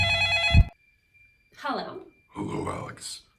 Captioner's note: phone ringing